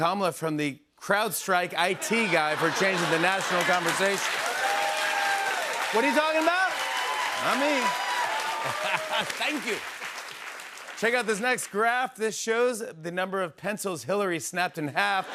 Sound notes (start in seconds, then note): 4.8 cheers and applause; 8.6 laughs